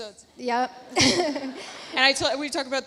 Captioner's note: laughs